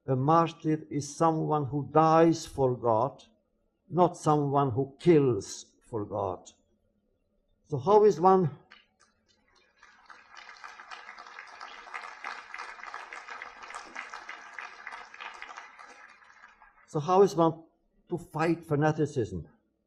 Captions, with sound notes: a martyr is someone who dies for God, not someone who kills for God. So how is one... (audience applauds) So how is one to fight fanaticism?